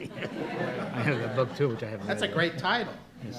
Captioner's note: all laughing